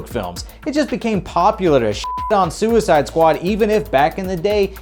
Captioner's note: beep